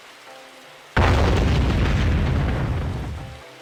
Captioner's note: boom